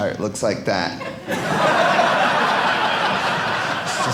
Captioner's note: audience laughing